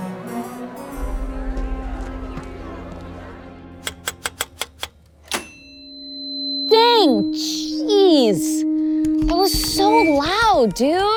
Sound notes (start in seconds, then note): 0.6 dramatic music; 3.8 typewriter clacking; 6.9 mic echoing